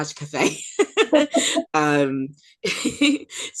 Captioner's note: laughs